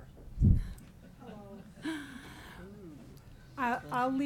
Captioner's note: woman groans